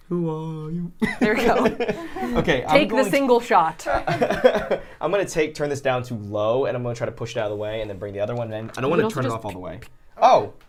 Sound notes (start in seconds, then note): 3.8 laughs; 3.8 laughter